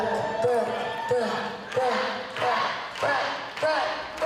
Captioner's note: audience chanting